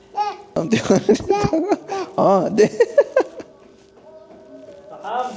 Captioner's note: laugh; speaking Arabic; toddler uttering; laugh